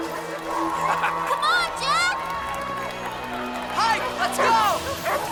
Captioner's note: Heep laughs